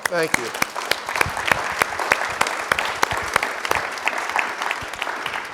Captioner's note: audience applauding